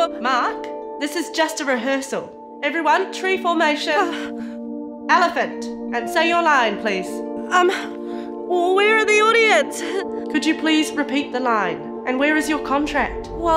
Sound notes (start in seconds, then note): none